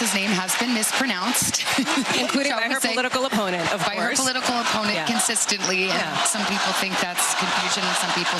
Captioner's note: applause